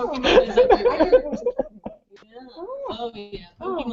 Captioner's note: laughter